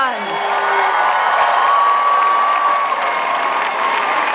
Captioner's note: audience cheering